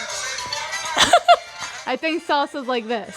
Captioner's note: laughs